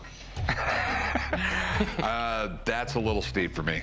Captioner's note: laugh